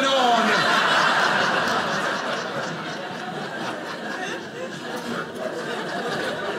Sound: audience laughing

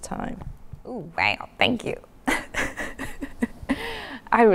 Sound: laughs

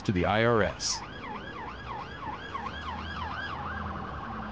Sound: sirens blaring

